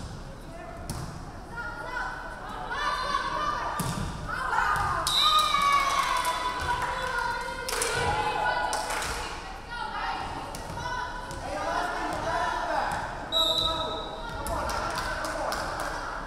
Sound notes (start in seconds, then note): 5.0 referee whistling; 5.4 crowd clapping; 13.3 referee whistling